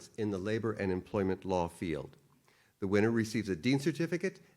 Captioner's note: none